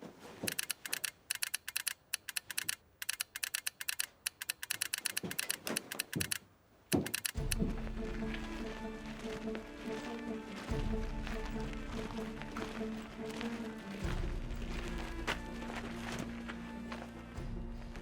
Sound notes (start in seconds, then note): 0.6 telegraph clicking; 7.6 tense orchestral music